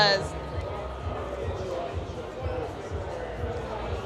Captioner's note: crowd murmuring